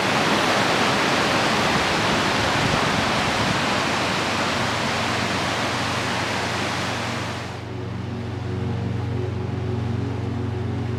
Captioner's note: music and rushing water sound